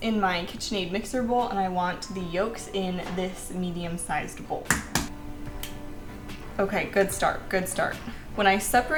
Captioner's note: crack